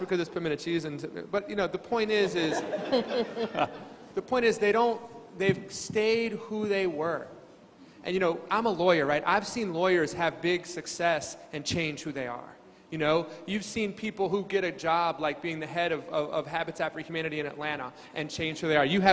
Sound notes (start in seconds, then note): 2.3 crowd laughing